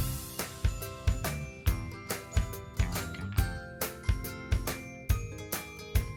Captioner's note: none